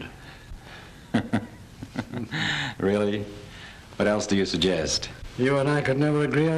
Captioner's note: laughing